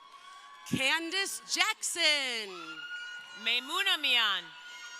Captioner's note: crowd cheering